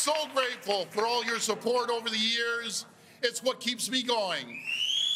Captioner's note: cheers and Applause